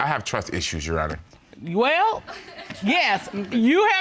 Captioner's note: audience chuckles